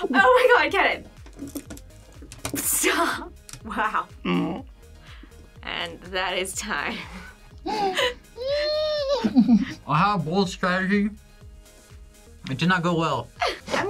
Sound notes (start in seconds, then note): 2.7 laughs